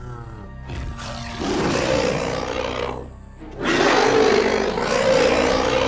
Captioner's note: roaring